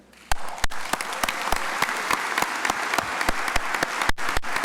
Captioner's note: crowd applauding